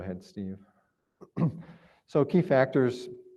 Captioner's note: clears throat